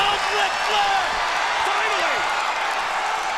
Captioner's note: crowd cheering